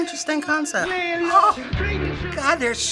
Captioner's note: joyfully